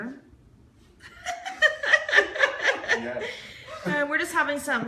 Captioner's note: laughing